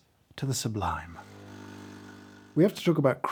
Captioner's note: coffee machine humming